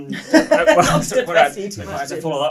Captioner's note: laughs